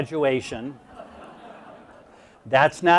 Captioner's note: audience laughs